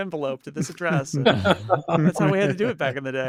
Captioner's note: laughing